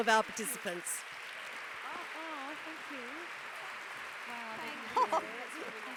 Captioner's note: applause